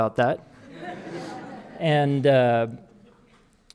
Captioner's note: audience laughing